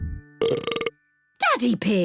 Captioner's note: belches; burps